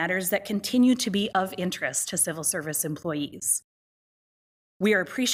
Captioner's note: none